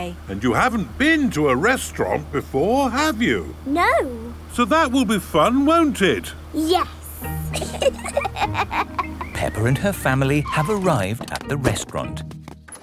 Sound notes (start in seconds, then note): 7.5 both laughing